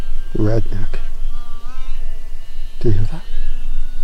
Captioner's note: buzzing noise